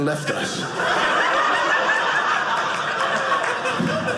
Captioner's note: audience laughing